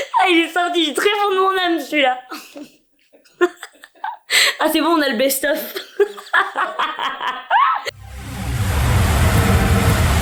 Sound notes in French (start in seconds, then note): 3.1 Rire; 5.6 Rire